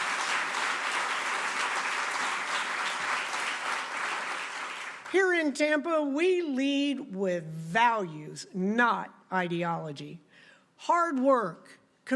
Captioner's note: applause